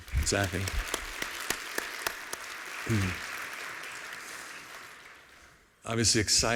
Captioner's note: applause